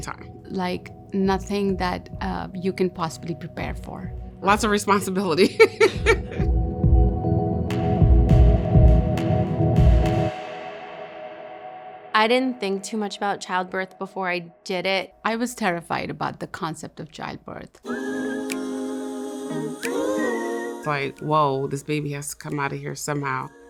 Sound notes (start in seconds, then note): 5.5 laughs; 5.7 atmospheric music; 17.8 upbeat music